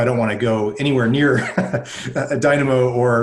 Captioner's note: laughing